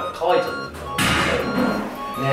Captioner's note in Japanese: トイレの蓋が閉まる音